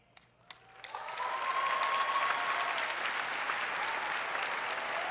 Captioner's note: applause